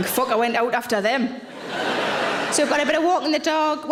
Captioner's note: audience laughs